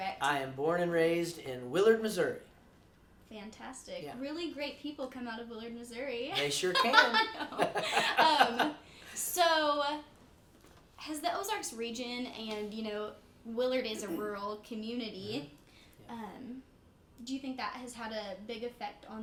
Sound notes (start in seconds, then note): 6.4 laughs